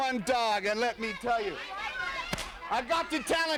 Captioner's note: whip cracking